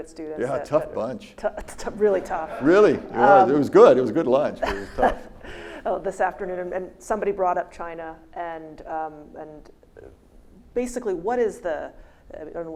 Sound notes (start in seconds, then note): 2.0 audience laughs